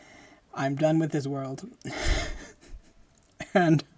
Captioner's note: laughing